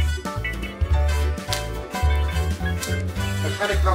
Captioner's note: candy canes snapping